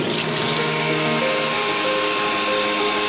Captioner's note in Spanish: Secador de pelo